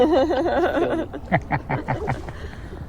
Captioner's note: laughs